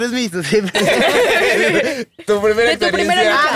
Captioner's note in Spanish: Risas